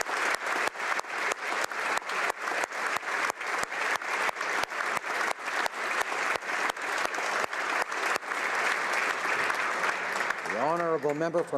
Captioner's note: applause